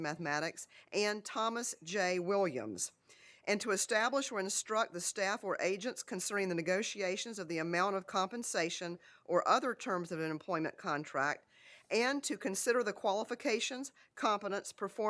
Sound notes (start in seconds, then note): none